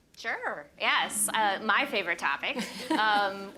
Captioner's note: laughter